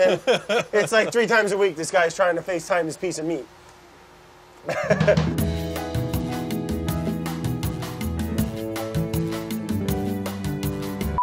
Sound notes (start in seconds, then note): 0.0 laughter; 4.6 laughs; 5.0 lounge music